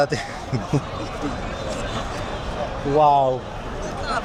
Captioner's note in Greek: Γέλια